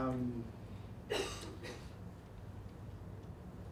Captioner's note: audience coughs